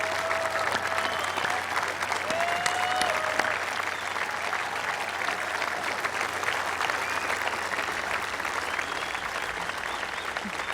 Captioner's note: applause